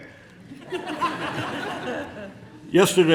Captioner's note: laughs; laughter